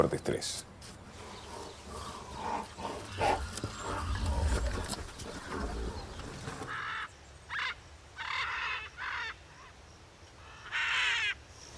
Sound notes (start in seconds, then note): 1.1 rhinoceros grunt; 7.2 parrot screeches